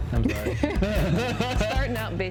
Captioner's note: both laugh